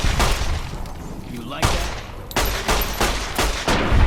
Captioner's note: gun blasting